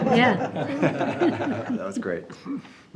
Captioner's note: all laughing